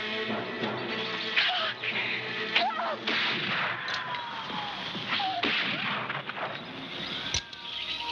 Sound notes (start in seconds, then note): 1.4 screaming; 3.1 gun firing